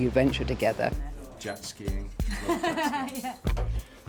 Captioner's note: laughs